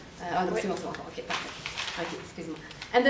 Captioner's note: speaks in foreign language